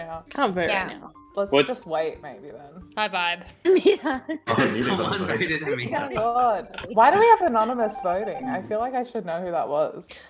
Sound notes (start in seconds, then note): 3.7 all laughing